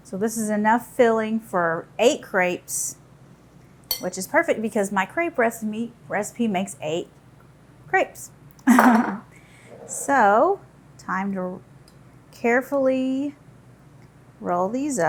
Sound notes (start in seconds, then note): 8.9 laughs